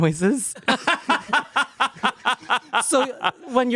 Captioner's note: everyone laughs